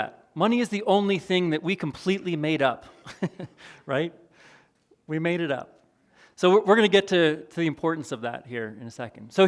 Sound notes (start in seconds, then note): 2.9 chuckles